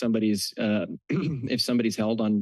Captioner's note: clears throat